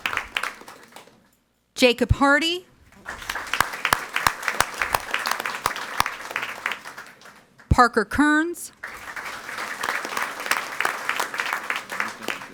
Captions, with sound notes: Jacob Harty. (audience applauding) Parker Kerns. (audience applauding)